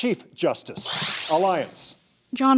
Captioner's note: electric shuttering